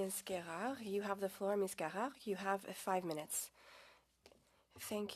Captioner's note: speaking French